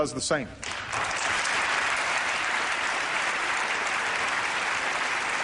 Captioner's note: applause